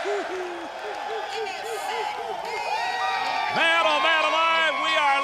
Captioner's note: crowd cheering